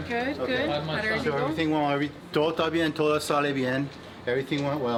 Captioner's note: speaks in foreign language